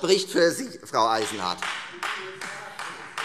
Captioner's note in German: Beifall Freie Demokraten